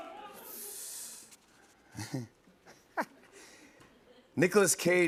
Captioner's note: chuckles